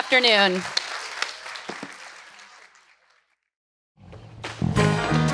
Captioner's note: audience applauds